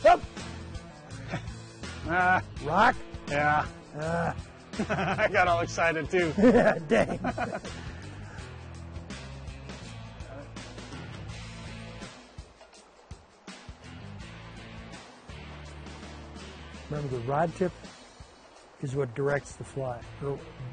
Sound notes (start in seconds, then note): 3.9 groaning; 6.2 laughs; 11.7 laughs